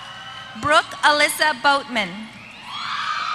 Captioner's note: applause